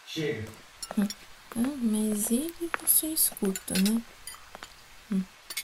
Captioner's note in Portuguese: Jéssica resmunga na cozinha enquanto lava a louça